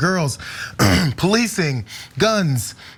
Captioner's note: cough